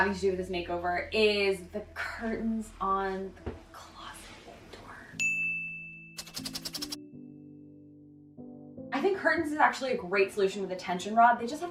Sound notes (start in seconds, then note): 5.2 bell dings; 6.2 pen scratches